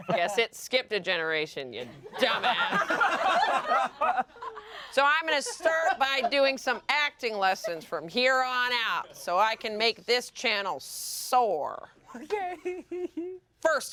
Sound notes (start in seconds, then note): 2.1 everyone laughs; 12.1 laughs